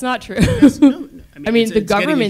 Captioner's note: laugh